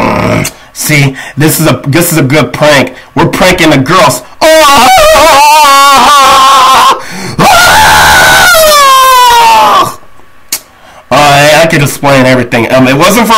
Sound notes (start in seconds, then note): 7.2 scream